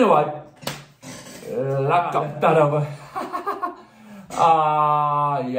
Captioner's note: laughing